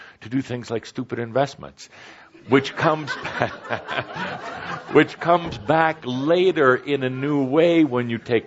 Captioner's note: laughter